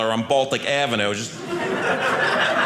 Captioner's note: audience laughing